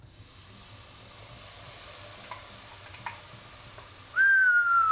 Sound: tomato sauce frying; whistles

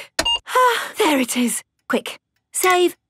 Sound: sighs

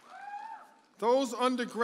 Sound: audience member hollers

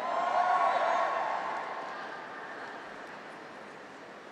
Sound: graduates cheer

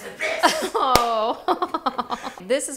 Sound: laughing

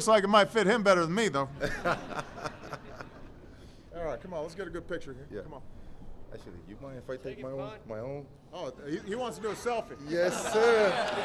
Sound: laughter and applause

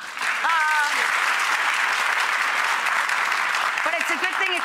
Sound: audience clapping

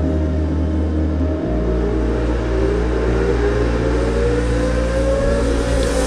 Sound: motorcycles revving

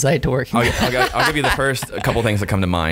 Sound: laughing

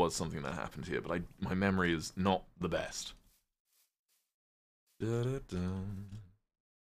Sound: hums

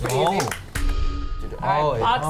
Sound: bell Chime

